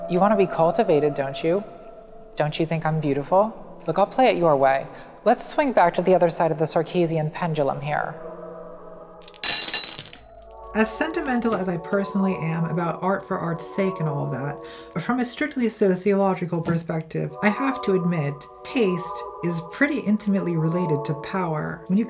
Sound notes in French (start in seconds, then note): 9.2 cling cling